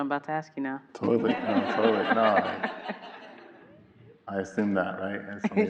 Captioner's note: everyone laughing